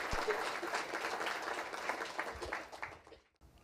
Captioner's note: applause